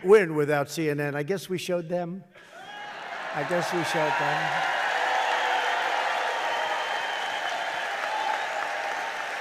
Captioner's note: laughter and applause